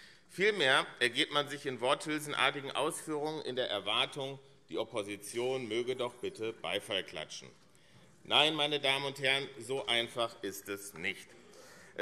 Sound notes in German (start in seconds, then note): none